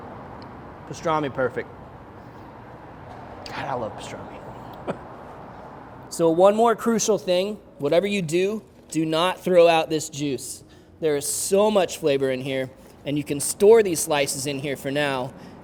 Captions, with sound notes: pastrami perfect. God I love pastrami (laughing). So one more crucial thing, whatever you do, do not throw out this juice. There is so much flavor in here and you can store these slices in here for now